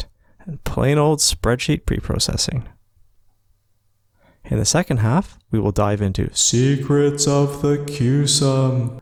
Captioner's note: echo